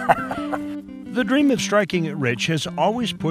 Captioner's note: laughs